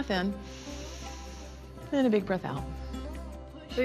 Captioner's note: all breathe deeply